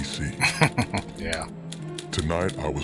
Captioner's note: chuckling